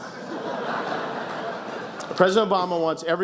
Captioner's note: laughs